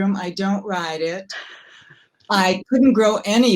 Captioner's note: giggling